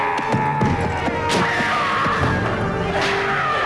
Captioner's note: spear stabs; villager groans; child shouting